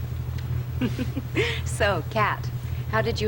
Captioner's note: laughing